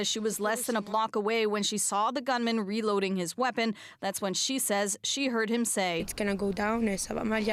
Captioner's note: speaking French